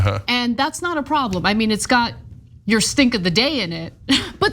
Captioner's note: laugh